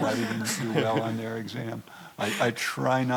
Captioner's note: panelists laugh